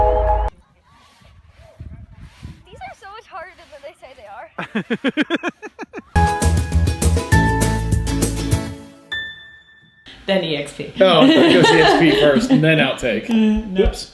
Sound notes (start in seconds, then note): 4.6 laughs; 6.1 upbeat music; 11.0 laughs